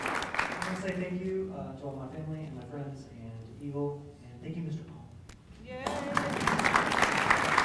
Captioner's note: applause